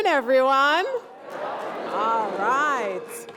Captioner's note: applause